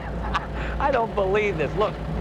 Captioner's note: laughing